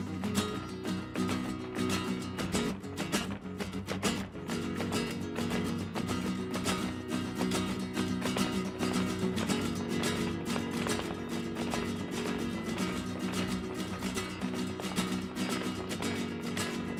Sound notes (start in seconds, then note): 0.3 acoustic music quickens; 3.4 heels rhythmically clicking